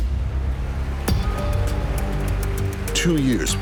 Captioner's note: audience applauding